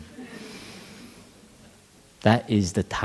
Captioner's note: laughter